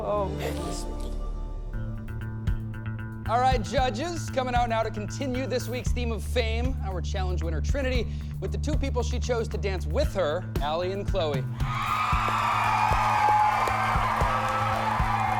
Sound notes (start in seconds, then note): 11.6 cheering